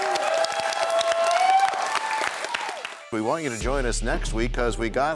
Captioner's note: cheers and applause